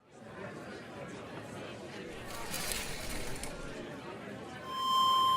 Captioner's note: chattering in audience; microphone feedback